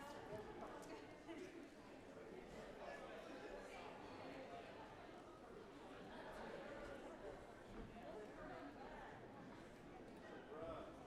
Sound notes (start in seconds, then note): none